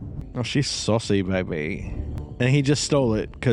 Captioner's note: Austin Powers-like accent